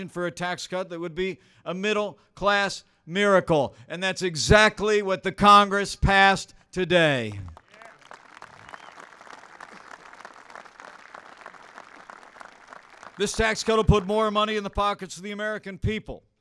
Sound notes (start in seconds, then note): 7.2 applause